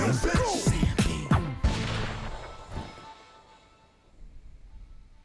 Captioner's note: chorus ends; fade out with gunshot sound